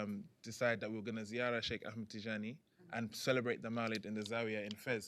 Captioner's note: non-english